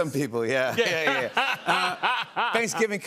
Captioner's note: laughter